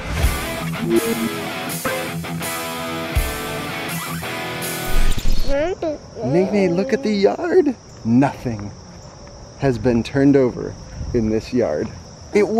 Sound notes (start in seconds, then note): 0.0 rock music; 5.4 baby cooing